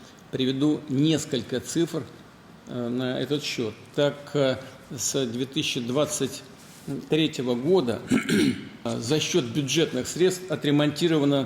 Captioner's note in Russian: откашливается